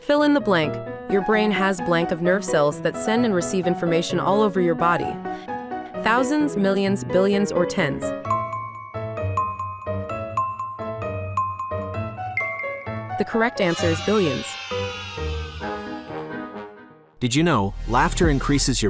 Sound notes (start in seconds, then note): 8.5 intriguing music; 14.4 children cheering; 14.4 intriguing music